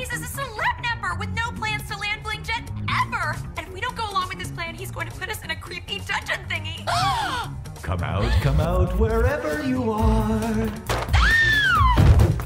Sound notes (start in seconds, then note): 6.9 both gasp; 11.1 screams